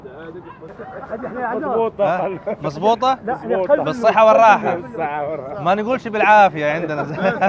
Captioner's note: Arabic